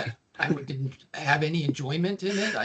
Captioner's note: laughing